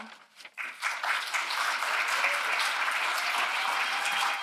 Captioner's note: audience applauds